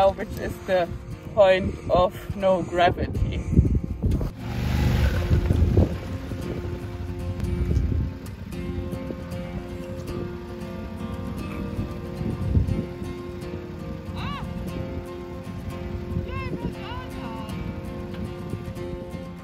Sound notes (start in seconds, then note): 5.0 lively music; 5.0 motorbike roaring